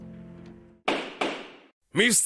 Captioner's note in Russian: Стук молотка